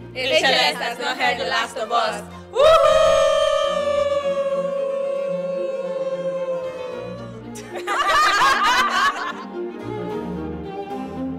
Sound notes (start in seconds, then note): 7.5 laughter